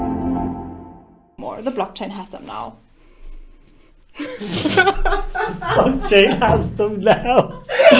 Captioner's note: laughter